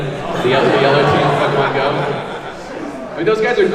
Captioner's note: audience ohs